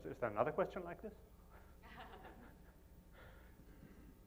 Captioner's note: giggling